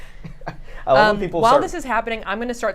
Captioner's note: laughs